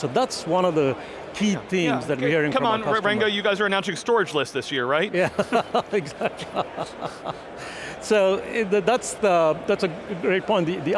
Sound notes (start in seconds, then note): 5.3 laughs